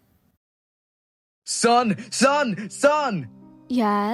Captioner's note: shouting